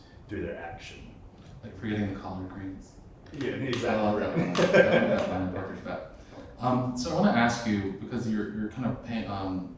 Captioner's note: laughter